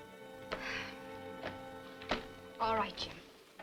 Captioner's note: sighs